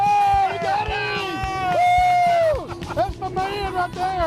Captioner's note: cheering